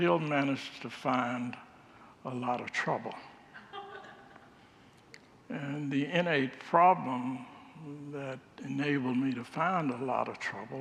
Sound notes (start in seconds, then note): 3.6 congregants laugh